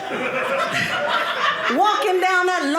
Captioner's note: audience laughing